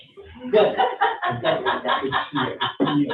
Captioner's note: all chuckling; laughing drains out dialogue